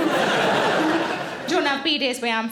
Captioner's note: audience laughing